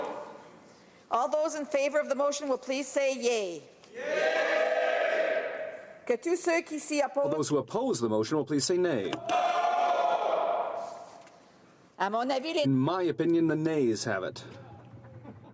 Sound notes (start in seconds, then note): 10.4 speaking french